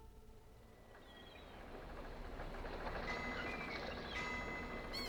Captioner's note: seagulls Calling, Ship Bells Clanging